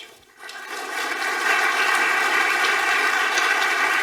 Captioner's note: audience applauding